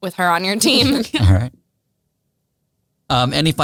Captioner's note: all laugh